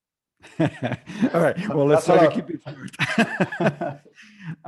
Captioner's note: Risas